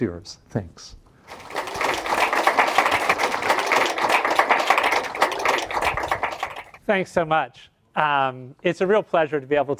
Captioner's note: applause